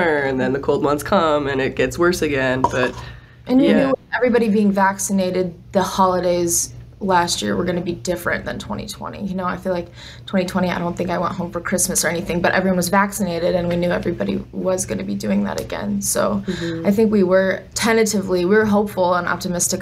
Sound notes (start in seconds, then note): none